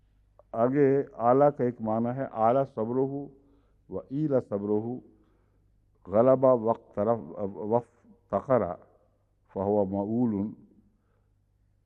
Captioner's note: Arabic